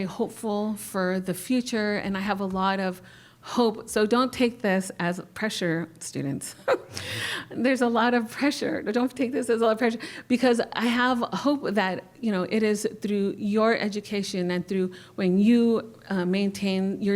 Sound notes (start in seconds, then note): 6.6 laughter